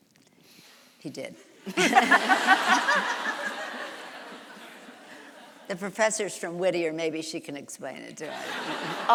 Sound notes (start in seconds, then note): 1.7 audience laughs; 1.7 laughs